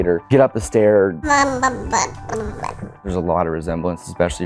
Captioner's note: babbling